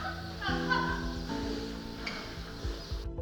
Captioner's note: students laughing